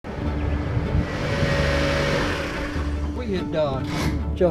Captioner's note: music and sound of car pulling in garage